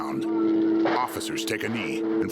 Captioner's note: helicopter whirring; gunshots; gunshots in distance